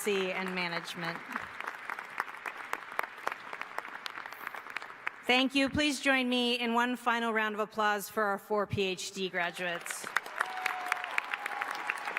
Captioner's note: applause